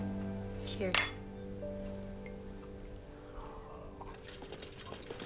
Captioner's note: cups clinking; cart rattling